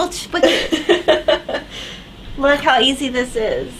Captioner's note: laughs